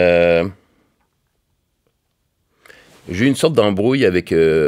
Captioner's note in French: silence